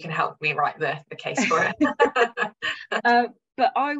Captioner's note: laughs